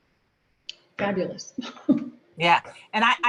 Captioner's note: chuckles